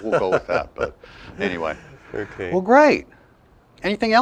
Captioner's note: laughter